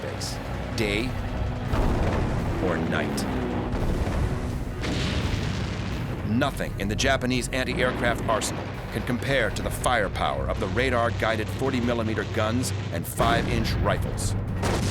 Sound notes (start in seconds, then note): 3.4 explosion; 13.9 gunfire